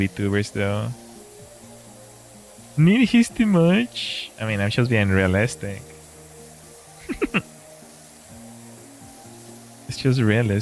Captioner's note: laughter